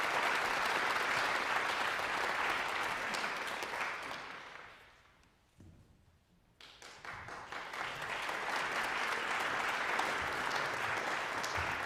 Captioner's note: applause